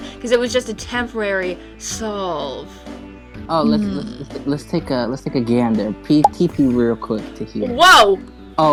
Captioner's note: pop sound